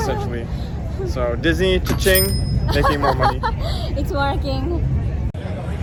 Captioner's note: money sound